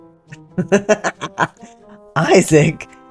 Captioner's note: laughter